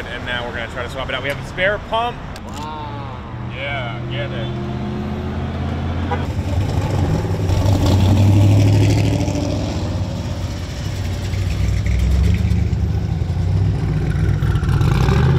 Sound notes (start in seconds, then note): 8.2 engine revving